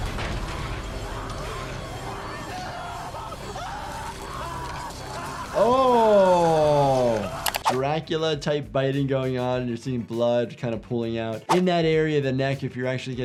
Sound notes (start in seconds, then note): 0.0 dramatic music; 3.3 man screaming